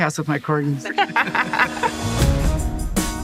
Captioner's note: funky music plays; laughs